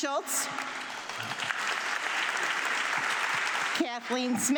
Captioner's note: audience clapping